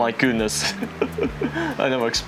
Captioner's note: nervous laugh